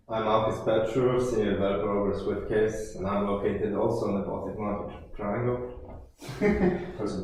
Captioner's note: laughs